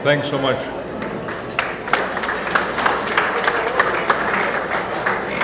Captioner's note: audience applauding